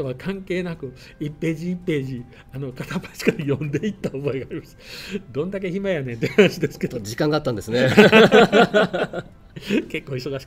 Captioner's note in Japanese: 二人の笑い声